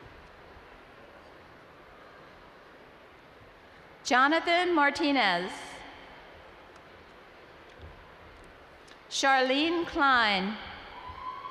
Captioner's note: screaming “ ” in the background